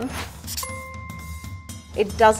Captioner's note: ping